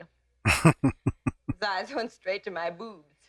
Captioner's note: chuckling